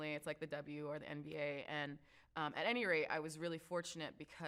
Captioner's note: none